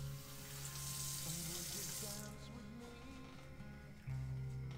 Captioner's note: water splashing